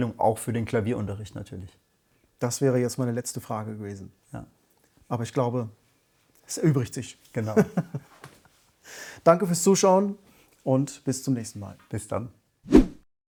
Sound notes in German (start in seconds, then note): 7.5 gelächter